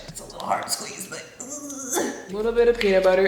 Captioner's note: grunts